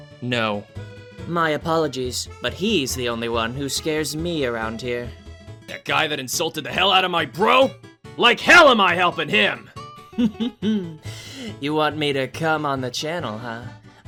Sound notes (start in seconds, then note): 10.2 chuckling